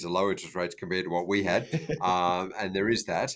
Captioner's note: laughing